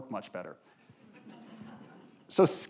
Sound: audience laughing

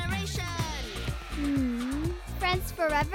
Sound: cheering

